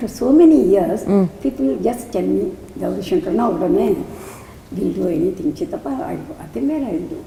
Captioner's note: in Tamil